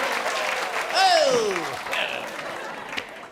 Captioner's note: laughter